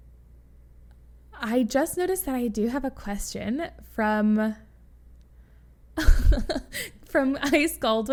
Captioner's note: laughs